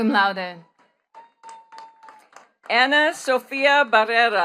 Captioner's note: attendees clapping